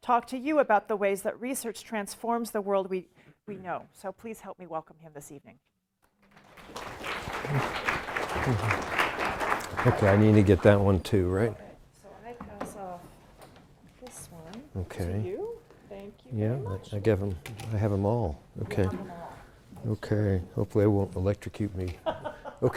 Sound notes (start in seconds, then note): 6.2 applause